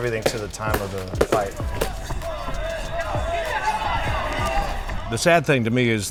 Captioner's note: audience chattering; punch and kick thudding